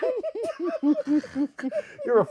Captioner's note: laughing